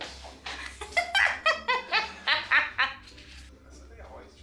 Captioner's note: laughs maniacally